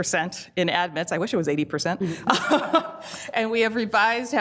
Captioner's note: laughs